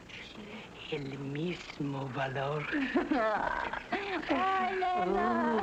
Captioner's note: crying